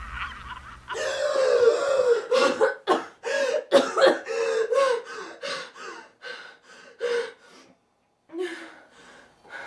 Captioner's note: supernatural sounds; gasp and coughing